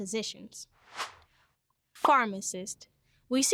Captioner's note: air whooshes